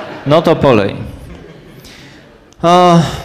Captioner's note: laugh